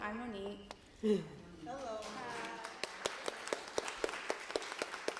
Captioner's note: applause